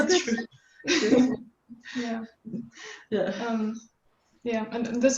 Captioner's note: laughing